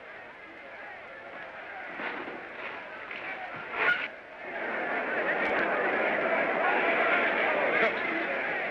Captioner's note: crowd clamoring